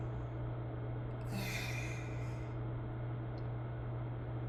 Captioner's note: heavy sigh